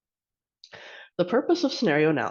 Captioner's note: inhales